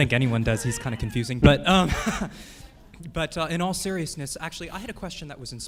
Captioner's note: laughs